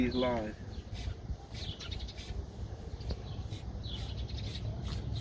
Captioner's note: spray whistling